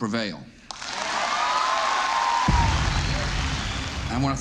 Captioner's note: audience claps, cheers